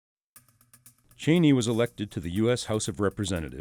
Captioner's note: voiceover